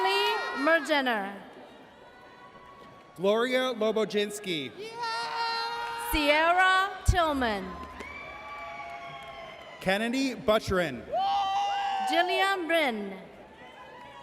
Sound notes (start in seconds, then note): 4.8 person cheers; 8.3 audience cheers